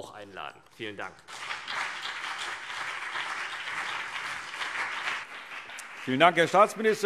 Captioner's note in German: Beifall CDU und BÜNDNIS 90/DIE GRÜNEN